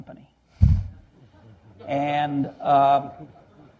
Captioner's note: laughter